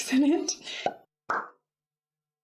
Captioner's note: pop!